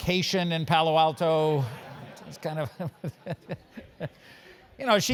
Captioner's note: laugh